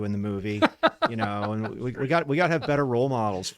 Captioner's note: laughs